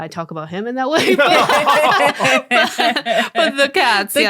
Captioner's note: all laughing